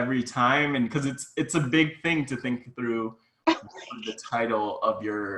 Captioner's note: laughs